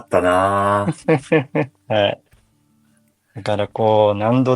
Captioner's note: laughs